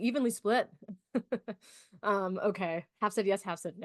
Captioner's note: chuckles